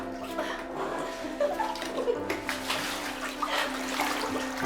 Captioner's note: laughter